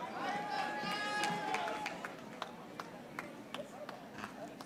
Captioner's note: audience applauding